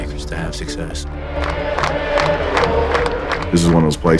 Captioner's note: fans cheering